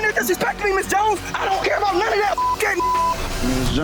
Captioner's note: beep